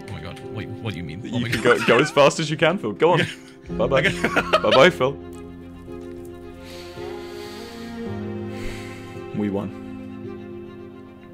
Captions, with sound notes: PH- Oh my god, wait? what do you mean? W- You could go as fast as you can, Phil. Go on. W- Bye, bye. PH- (laughs) W- Bye, bye Phil.. W- (sighs) W- We won.